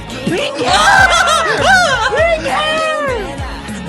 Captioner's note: gasps; screams